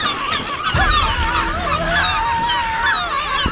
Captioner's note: Ashlynn screaming; gulls squawking